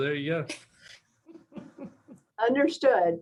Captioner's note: laughter